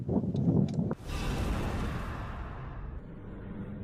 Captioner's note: whoosh